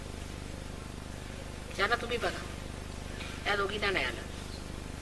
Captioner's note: mother speaks in marathi